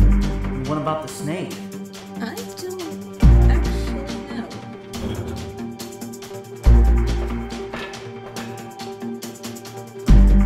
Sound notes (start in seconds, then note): 4.8 metal Creak